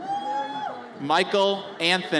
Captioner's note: audience cheers